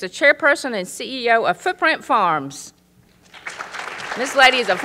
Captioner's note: applause